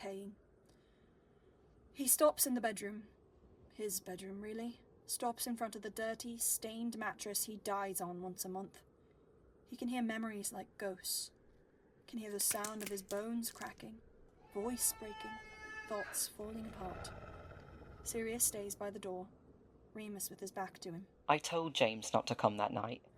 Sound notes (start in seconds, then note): 12.3 bones cracking; 14.4 screaming; 16.4 wolf growling